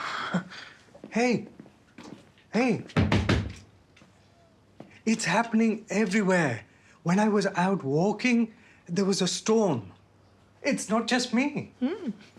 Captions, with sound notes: - [Dhiru scoffs] - Hey? Hey? [Thumps] It's happening everywhere, when I was out walking there was a storm. It's not just me.